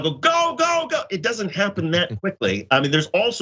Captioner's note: laugh